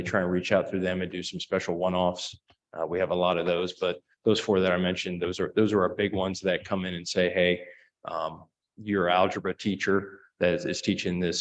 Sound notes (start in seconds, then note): none